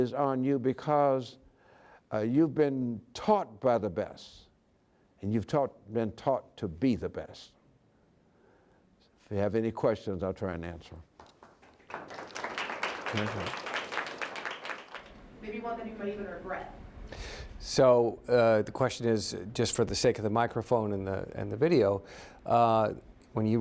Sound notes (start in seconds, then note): 15.4 applause